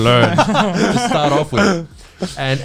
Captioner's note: all laughing